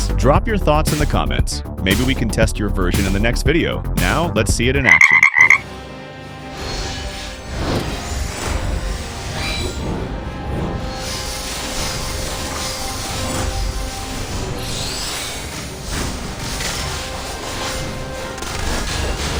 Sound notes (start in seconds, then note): 11.5 croak!